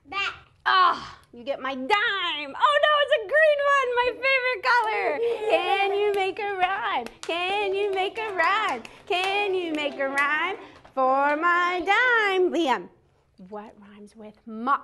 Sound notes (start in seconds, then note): 5.7 clapping